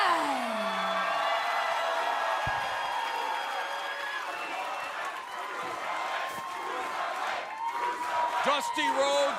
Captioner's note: crowd cheering